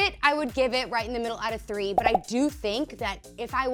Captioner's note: popping